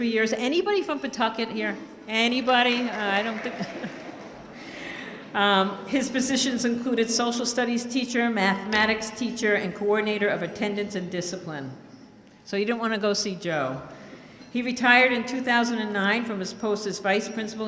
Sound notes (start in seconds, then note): 2.8 clapping; 3.4 laughs